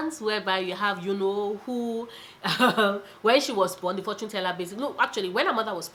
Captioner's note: laughs